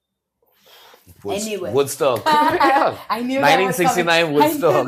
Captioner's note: laughs